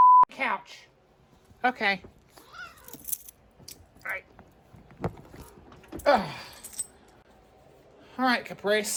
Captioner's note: Caprice meows